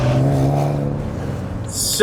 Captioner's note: engine humming